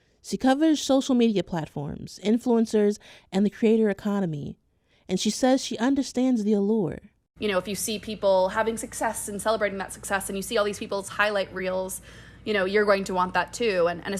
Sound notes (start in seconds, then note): none